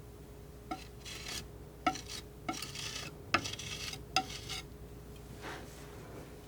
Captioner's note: scratching